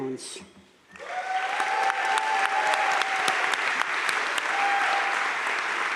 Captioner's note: audience cheering and applauding